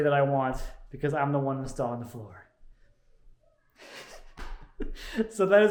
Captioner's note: laughs